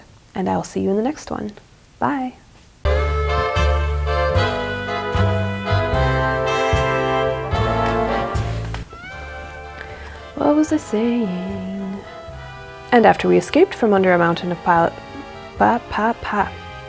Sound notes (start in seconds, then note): 2.8 sultry jazzy outro music; 10.2 singsong